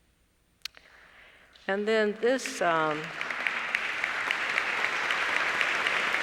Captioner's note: applause